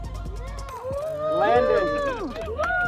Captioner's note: crowd cheering